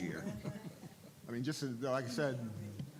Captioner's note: laughing